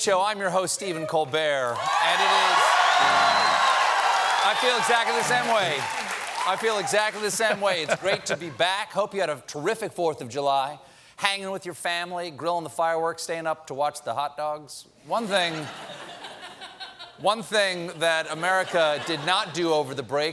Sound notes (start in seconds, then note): 4.1 cheers and applause